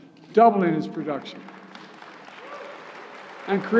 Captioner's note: applause